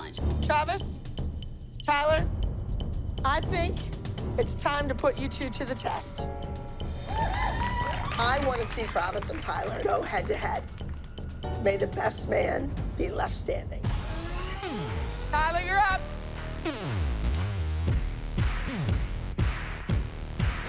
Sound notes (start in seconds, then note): 7.0 cheering